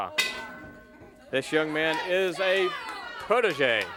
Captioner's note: bell ringing; crowd chatter